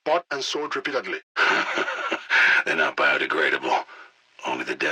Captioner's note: laughs